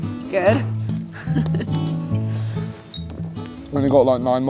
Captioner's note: laughs